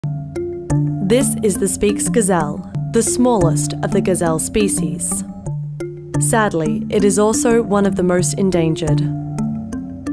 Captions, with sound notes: (slow mellow music) - [Voiceover] This is the Speke’s gazelle. The smallest of the gazelle species. Sadly, it is also one of the most endangered.